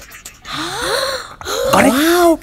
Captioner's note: Whispering